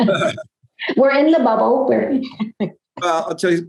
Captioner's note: laughs